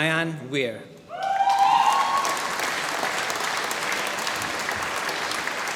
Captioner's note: applause